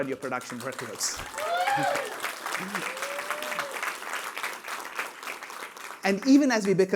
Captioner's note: applause